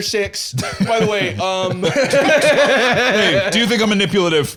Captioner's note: laughs